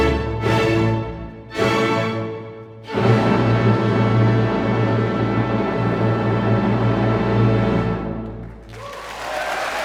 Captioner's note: applause